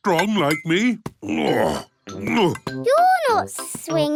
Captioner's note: grunts